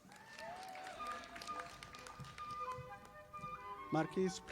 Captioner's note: audience applauding